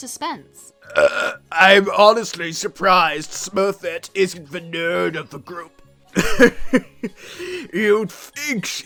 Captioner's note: burp